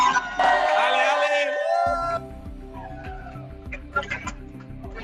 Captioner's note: cheering